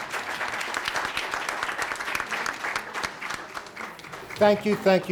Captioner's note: students clapping